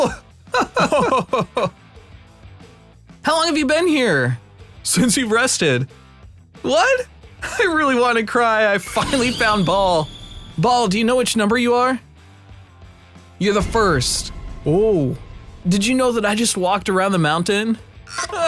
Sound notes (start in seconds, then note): 0.5 laughs; 14.4 surprised; 18.1 sobbing